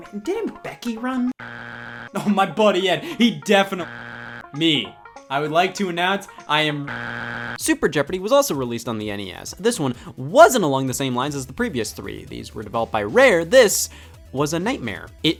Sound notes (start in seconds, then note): 1.4 buzzer beeps; 3.8 buzzer beeps; 6.8 buzzer beeps